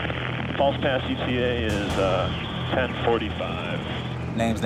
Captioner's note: man Over Radio